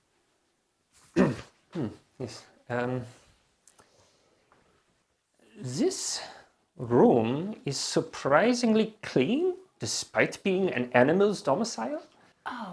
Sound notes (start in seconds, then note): 1.1 Weiss clears throat